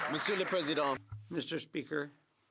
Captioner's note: some Applause